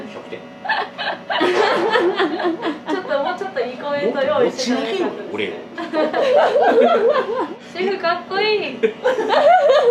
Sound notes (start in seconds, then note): 5.8 laughs